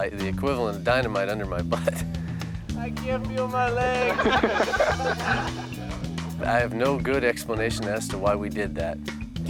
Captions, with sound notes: the equivalent of dynamite under my butt. (laughs) I can't feel my legs. (friends laughing) I have no good explanation as to why we did that.